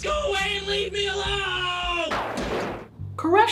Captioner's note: whooshing